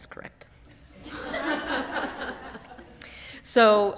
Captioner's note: laughter